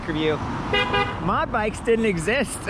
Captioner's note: car horn honks